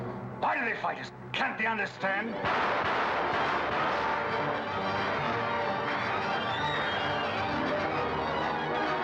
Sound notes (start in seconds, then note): 2.4 dramatic music; 2.4 gunfire; 7.9 dramatic music